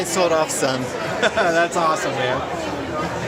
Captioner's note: laughter